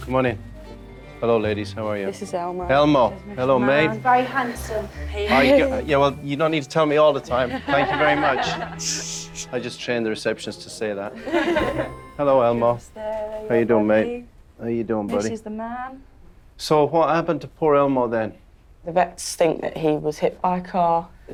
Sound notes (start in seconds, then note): 11.1 laughing